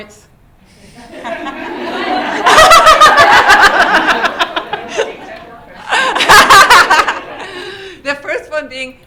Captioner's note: laughter